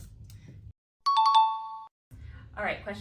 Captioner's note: ding sound